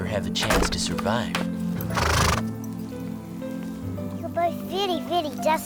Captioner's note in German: Pferd wiehert